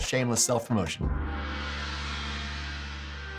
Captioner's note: gong sounds